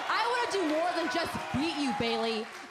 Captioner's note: crowd cheering